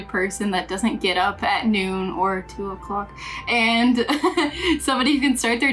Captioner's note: laughs